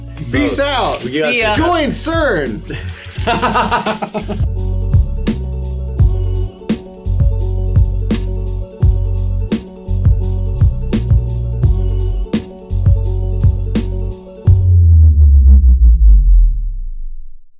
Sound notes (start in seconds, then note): 3.2 laughs; 5.2 upbeat music; 14.4 upbeat music fades